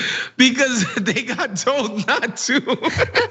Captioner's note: laugh